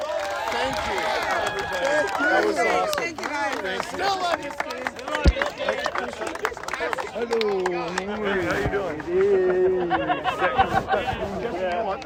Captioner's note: crowd: TEND THE GOAL!, cheering; crowd: still love you, buddy!, various yelling